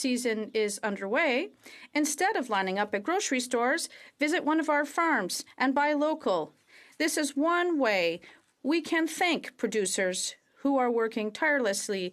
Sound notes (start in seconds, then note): 3.5 speaking French